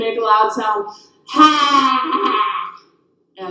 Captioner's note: yelling sound